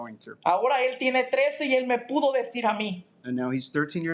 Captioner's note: speaking in Spanish